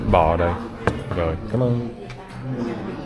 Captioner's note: speaking Vietnamese